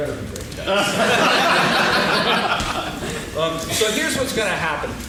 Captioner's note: laughing